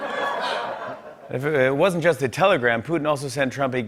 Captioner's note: laughter; normal voice